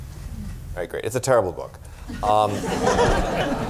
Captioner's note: laughter